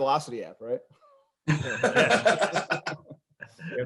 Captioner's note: laughs